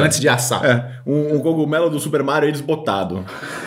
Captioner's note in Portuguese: risos